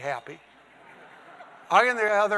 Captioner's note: audience laughing